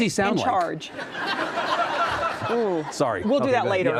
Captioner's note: audience laughing